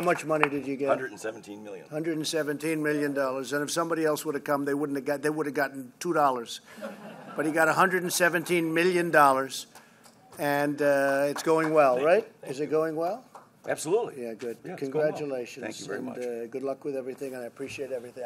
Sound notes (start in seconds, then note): 6.7 laughter